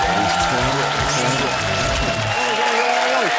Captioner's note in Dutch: applaus